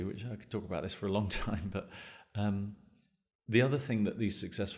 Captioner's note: chuckles